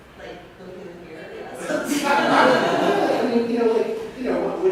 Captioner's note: laughter